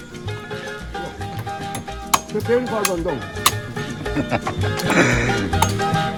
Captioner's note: laugh